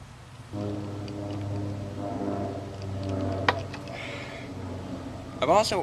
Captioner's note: jet flying overhead